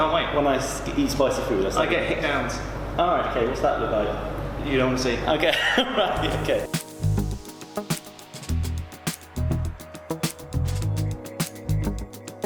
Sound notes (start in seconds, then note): 5.7 laughing; 6.1 upbeat music